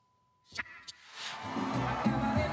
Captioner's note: cheers and Applause